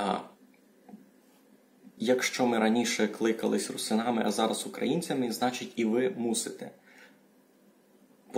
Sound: speaks Ukrainian

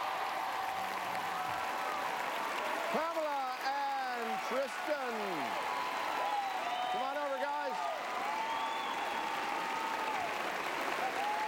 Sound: applause

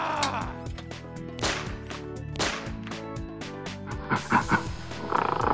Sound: screaming; gun shots; gorilla growling

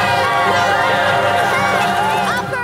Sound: all cheering

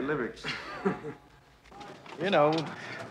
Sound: laughs

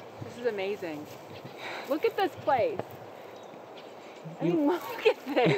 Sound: sighs

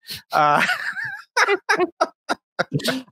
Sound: laughing

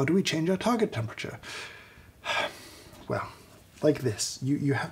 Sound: sighs

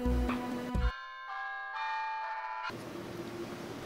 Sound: cell phone ringing

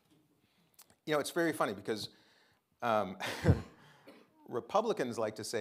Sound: chuckles

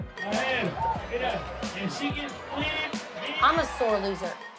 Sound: announcer speaking foreign language

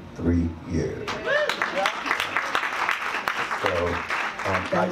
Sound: audience cheers

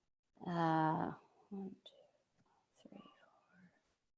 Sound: counting under her breath

